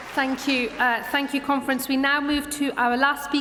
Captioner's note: applause